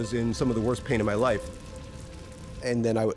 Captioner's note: fire crackling